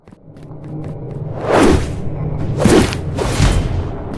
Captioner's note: ambient music playing; slashing